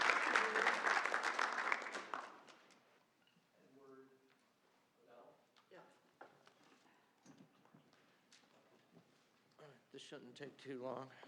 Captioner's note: applause